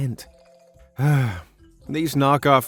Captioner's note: sigh